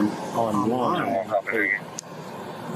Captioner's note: radio chatter